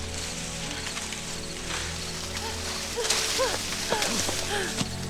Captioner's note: corn stalks rustling